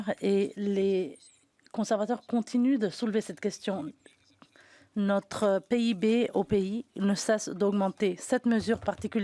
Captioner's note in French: voix de l'interprète